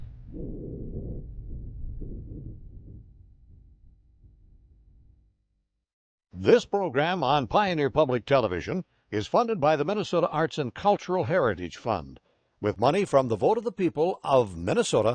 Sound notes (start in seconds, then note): 6.6 voiceover